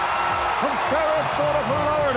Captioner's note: crowd cheering